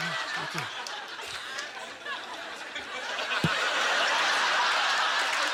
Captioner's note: audience laughter; applause